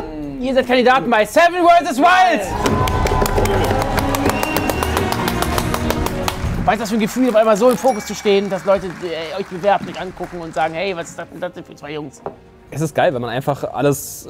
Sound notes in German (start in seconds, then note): 2.6 Jubel, Applaus